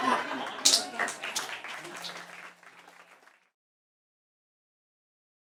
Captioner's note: laughing; clapping